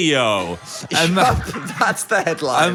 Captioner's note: both laugh